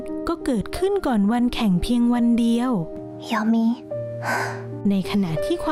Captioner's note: gasp; sigh